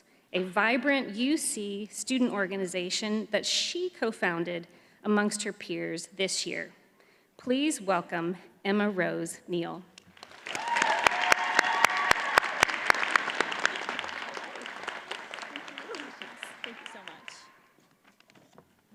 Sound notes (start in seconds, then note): 10.1 audience cheers and applauds